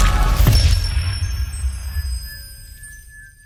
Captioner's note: bells ringing